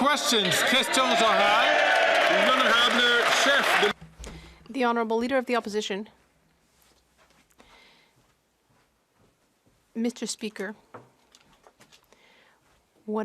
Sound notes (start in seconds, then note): 0.0 some Applause; 5.4 speaking French